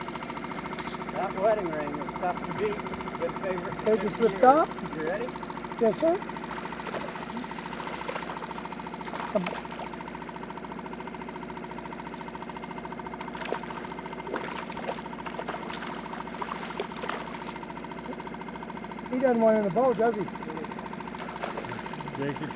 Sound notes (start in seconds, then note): 13.1 fish splashing; 21.1 fish splashing